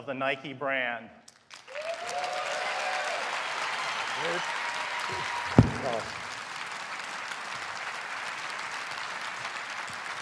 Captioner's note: cheers and applause